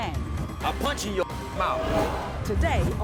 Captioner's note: beep